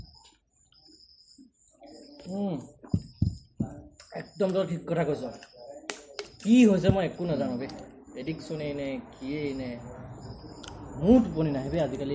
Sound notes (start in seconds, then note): none